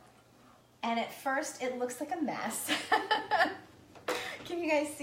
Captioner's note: laughs